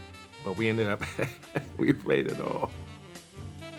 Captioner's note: laughs